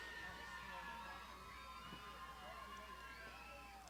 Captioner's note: graduands shouting